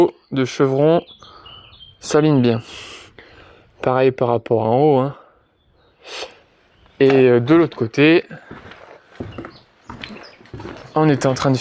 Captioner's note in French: grognement